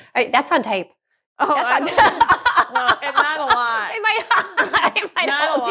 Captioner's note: laughs